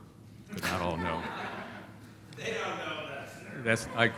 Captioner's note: laughter